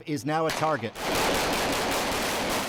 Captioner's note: rapid gunfire